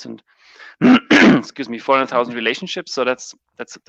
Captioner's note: coughs